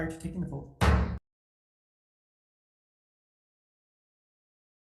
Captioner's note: gavel bangs